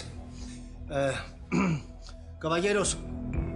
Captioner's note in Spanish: Carraspea